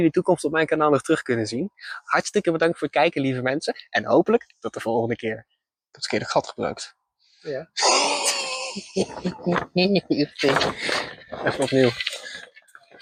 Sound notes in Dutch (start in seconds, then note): 7.8 Lacht om z'n eigen fout